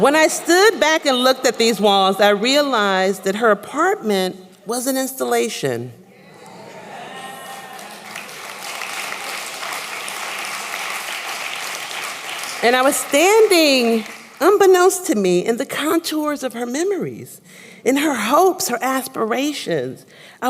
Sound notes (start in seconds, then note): 5.4 applause